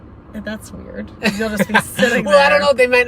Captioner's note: laughing